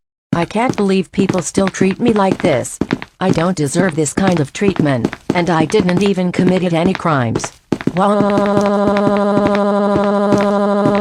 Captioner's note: crying